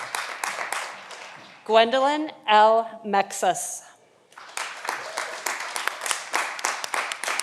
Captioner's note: audience applauding